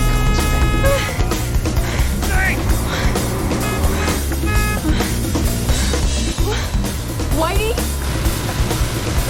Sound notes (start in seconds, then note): 3.5 horn honking